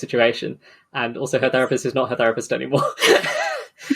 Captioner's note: laughing